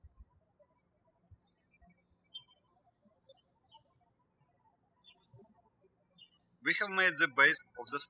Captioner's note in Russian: птички щебечут